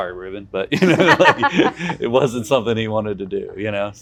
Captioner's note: laughs